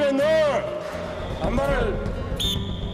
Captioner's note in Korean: 호루라기 소리